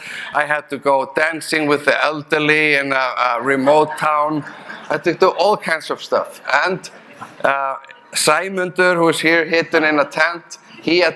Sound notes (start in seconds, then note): 3.0 audience chuckling